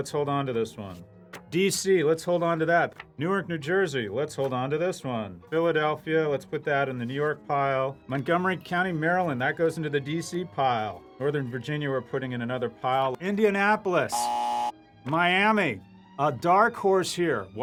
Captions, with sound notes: hold on to this one. DC -- let's hold on to that. Newark, New Jersey -- let's hold on to this one. Philadelphia, let's put that in the New York pile. Montgomery County, Maryland -- that goes into the DC pile. Northern Virginia, we're putting in another pile. Indianapolis. *buzzer* Miami -- a dark horse here --